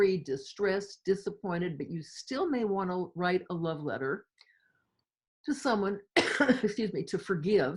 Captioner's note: cough